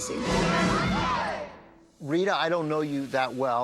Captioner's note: all exclaim